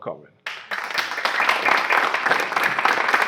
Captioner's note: applause